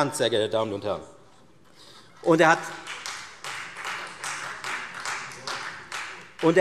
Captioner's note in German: Beifall Freie Demokraten